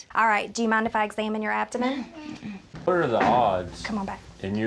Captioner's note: none